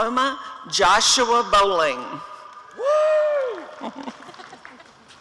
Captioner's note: applause and cheering